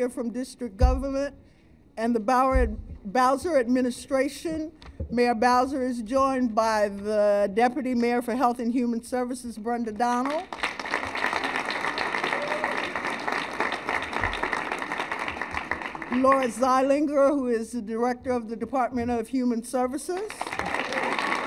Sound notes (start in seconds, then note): 13.3 applause; 20.1 applause